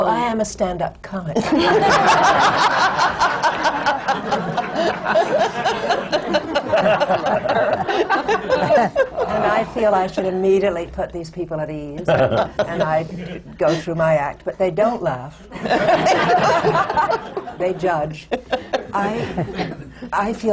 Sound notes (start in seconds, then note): 4.2 laughter; 12.2 the panel laughs; 15.5 laughter